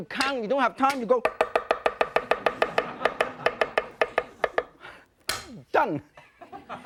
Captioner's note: loud chopping, audience laughter; laughter